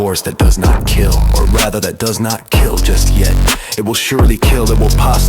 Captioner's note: record scratch